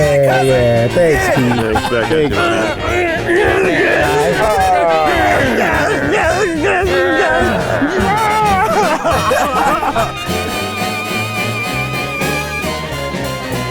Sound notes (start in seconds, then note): 2.5 guys grunting; 7.4 growls; 9.5 guys laugh; 11.0 upbeat music